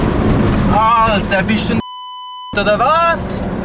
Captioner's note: in Swiss German